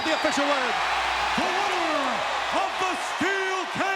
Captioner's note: crowd cheering